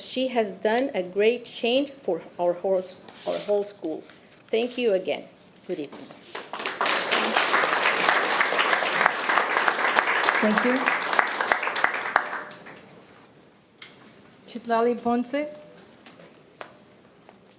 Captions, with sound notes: because she has done a great change for our whole school. Thank you again. Good evening. (audience clapping) - Thank you. Citlali Ponce.